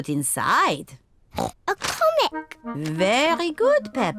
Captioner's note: oinks